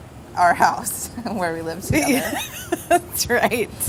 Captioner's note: laughter